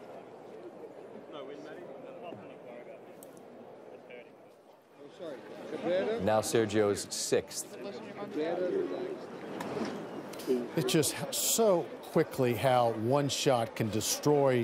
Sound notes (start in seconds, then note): 3.5 laughter